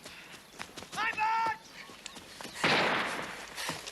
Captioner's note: gunshot